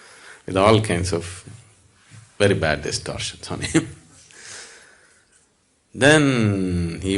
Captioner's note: laughter